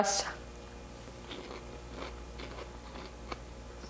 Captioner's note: chewing